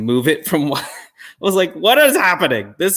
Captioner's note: chuckle